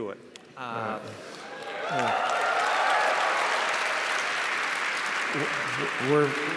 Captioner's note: audience cheers and applauds